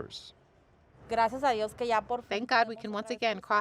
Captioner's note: speaking Spanish